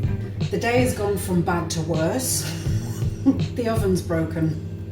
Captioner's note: laughs